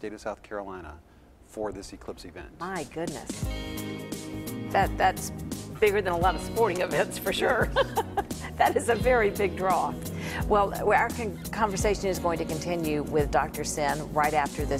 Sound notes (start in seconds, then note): 7.6 laughing